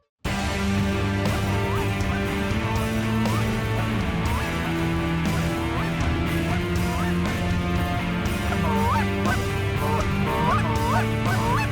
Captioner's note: goose calls